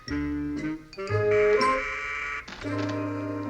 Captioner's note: buzzer rings